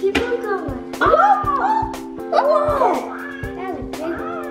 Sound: gasps

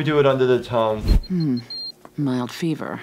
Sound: thermometer beeps

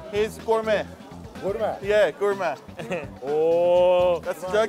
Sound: speaking foreign language

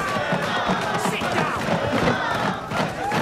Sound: chanting continues

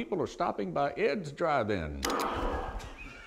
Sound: gunshot

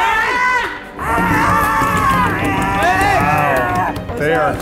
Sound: screaming

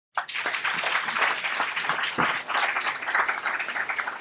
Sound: applause

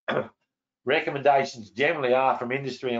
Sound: clears throat

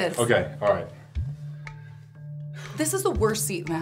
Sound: sighing

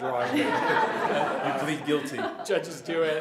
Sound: laughter

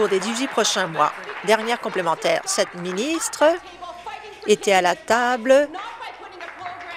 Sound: applause

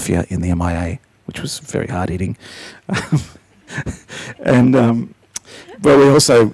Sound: laughs

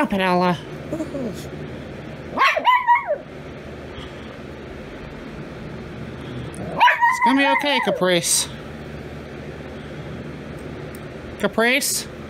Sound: Ella growls and barks; Caprice growls

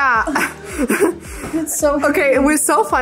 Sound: laughs

